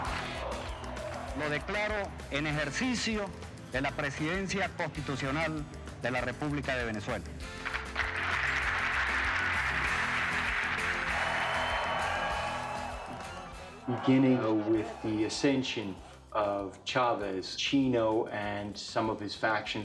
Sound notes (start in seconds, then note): 6.3 applause; 10.2 cheering